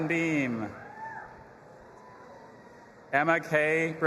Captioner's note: audience applauding and cheering